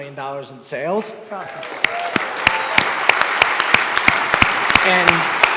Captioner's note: audience applause